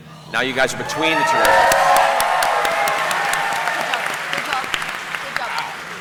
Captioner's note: cheering